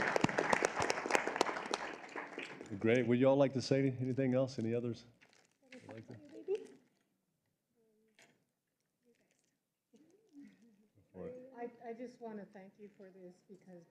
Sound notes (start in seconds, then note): 3.4 applause